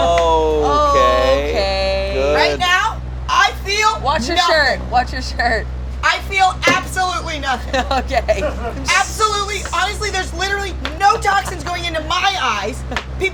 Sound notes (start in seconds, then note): 8.4 laughs